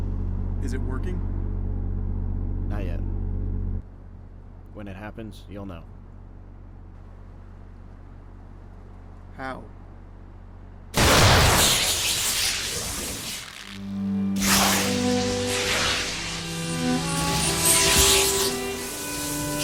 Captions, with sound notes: - Is it working? - Not yet. When it happens, you'll know. - How? [Electrical explosion] [Electricity zapping]